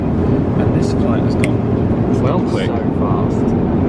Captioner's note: snaps fingers